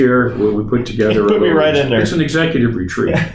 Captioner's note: chuckles